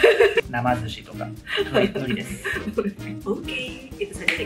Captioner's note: laughs; laughs